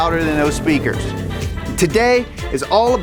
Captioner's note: engine revving